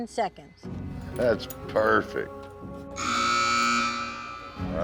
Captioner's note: buzzer sounds